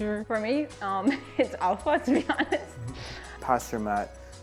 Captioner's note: laughs